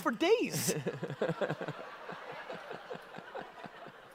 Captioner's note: audience laughter